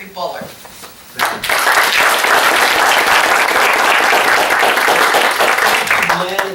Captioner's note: clapping